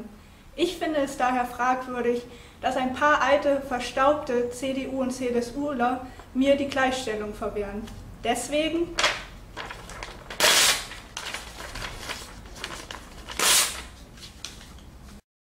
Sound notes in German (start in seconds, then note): 9.6 lautes Zereisen des Papiers